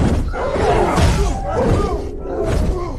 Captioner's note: growling